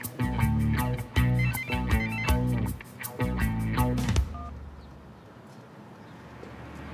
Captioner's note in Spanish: Suena el celular